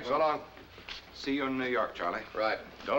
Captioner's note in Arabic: تعليق صوتي